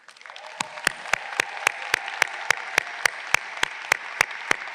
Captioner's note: audience applauding